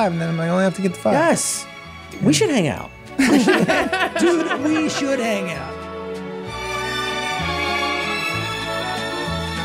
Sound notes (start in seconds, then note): 3.2 all laughing; 5.9 sickly sweet music